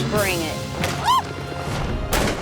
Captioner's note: woman yelling; gun blasting